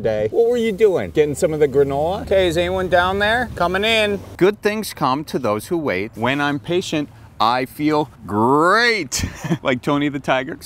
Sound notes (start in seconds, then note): 9.1 laughs